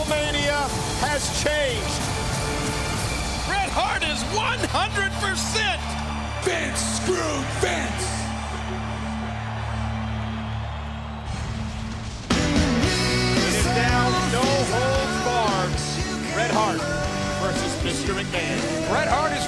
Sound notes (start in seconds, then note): 7.0 crowd cheering